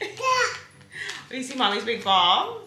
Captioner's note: laughs; coos